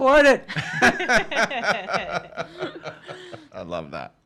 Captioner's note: all laughing